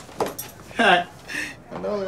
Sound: chuckles

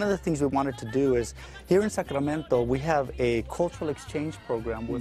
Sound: speaking foreign language

